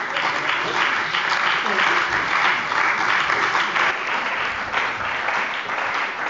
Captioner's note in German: Beifall bei der CDU und dem BÜNDNIS 90/DIE GRÜNEN